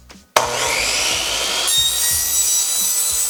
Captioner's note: saw buzzing